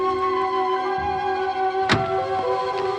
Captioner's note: car door slams